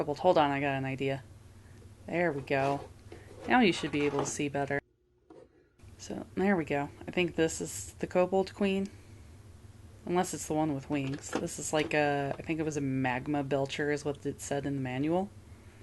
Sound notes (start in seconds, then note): none